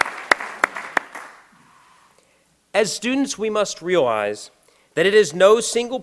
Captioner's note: applause